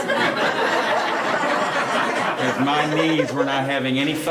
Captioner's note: laughing